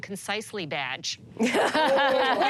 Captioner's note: laughter